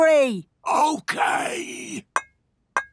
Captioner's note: whispering